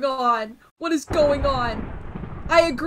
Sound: lightning strikes

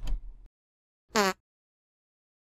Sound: fart noise

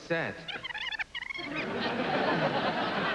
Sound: tape rewinding

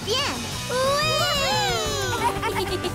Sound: cheering

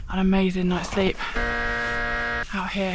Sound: wrong answer buzzer

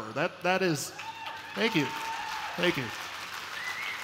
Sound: applause

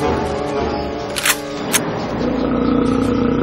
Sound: loads shotgun

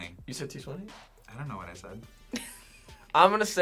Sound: React laughs

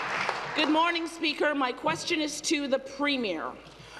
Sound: applause

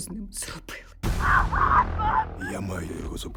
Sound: screaming over radio

